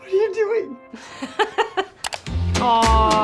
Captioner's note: laughs